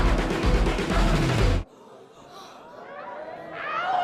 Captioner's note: crowd gasping